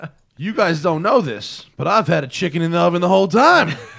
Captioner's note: laughter